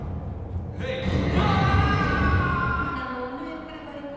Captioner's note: screaming